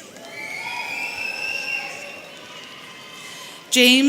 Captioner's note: audience cheering